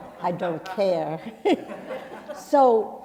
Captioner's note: chuckles